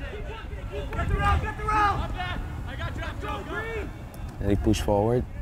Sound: players talking and yelling

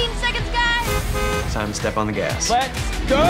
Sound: car honking

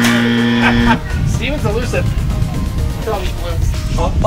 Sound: buzzer ringing; laughing

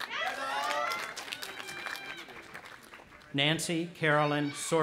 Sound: audience applauding and cheering

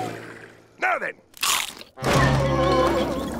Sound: groaning

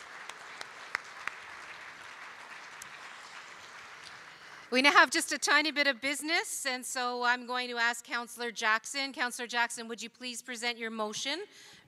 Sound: cheering and Applause

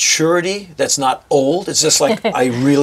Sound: chuckles

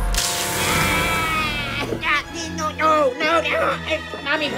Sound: yelling

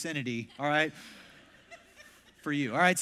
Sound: congregation laughs

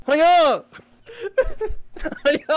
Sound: laughter

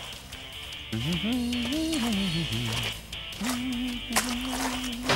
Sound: humming

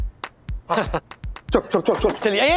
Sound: laughs

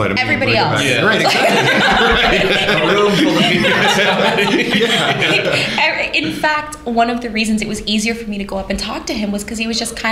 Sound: laughter

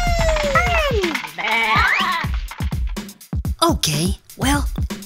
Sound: sheep baa

